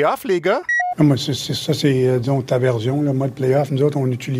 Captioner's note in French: voix de Claude Julien